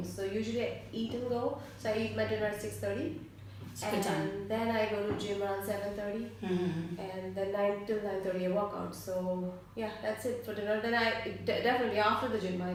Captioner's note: hmm hm